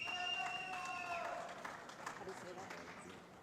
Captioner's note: shouting